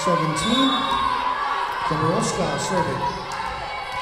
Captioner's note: whistle blowing